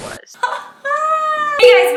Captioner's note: laughing